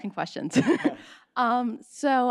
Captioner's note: laughs